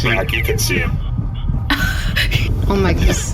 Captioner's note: sound of running behind the car, panting; snickers